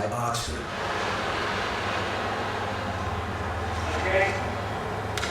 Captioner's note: machine noises